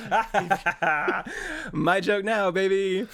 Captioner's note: laughs